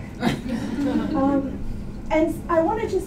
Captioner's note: laughter